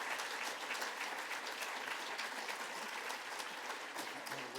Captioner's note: applause